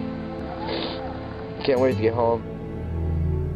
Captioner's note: snif